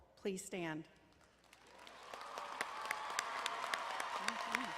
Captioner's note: crowd applauding